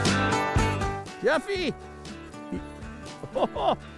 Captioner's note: voiceover; laughing